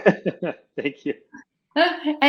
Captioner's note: laughs